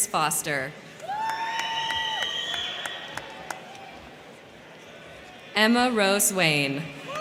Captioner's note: crowd cheering; crowd clapping